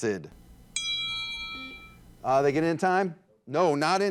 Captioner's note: buzzer buzzes; signal dings